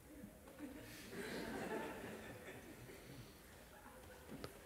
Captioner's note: laughter